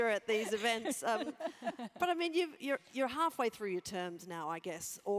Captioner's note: laugh